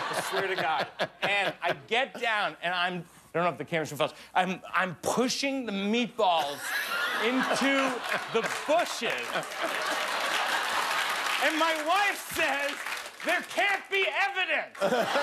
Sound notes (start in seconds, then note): 8.9 laughter